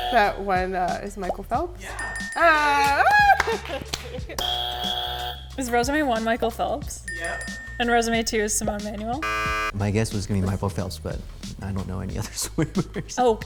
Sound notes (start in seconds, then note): 0.0 buzzer; 2.0 ding ding ding; 4.4 buzzer; 7.1 three dings; 9.2 buzzer